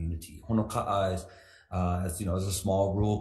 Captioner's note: speaks foreign language